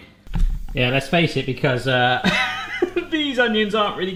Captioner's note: laughing